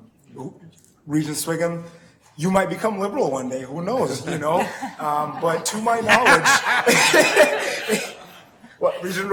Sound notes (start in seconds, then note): 4.4 woman chuckling; 7.7 man laughing